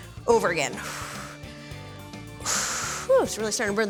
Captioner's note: exhaling